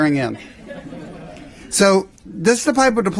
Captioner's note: laughter